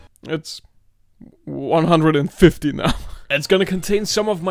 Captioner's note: chuckles